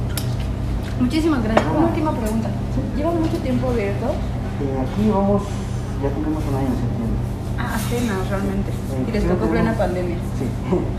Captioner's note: laugh